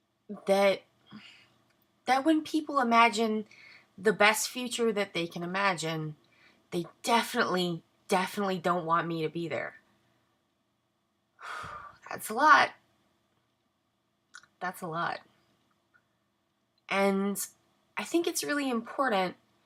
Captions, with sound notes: that when people imagine the best future that they can imagine, they definitely, definitely don't want me to be there. *exhale* That's a lot. That's a lot. And I think it's really important--